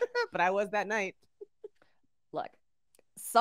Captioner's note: laughs